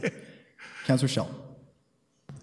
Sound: laughing

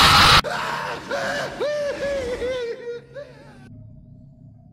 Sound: Flying Dutchman screaming

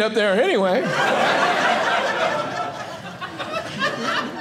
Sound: audience laughing

